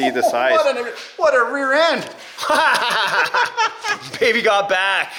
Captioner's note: laughs